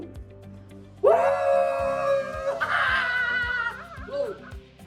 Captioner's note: whooping; cheering